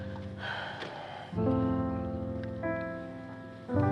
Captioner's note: sighs